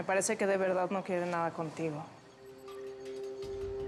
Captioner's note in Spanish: none